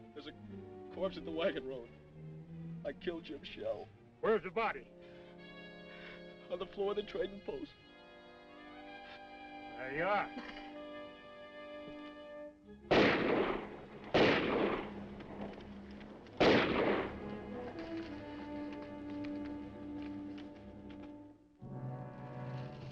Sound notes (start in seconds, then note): 8.9 dramatic music; 12.8 gun firing; 14.4 horse hooves clopping; 16.9 gun firing; 19.4 dramatic music